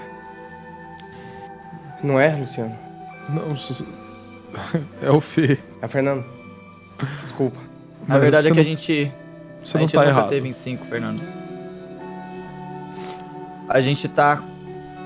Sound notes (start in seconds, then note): 4.5 laugh